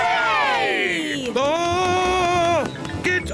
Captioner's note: screams